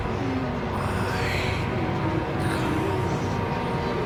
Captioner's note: raspy Voice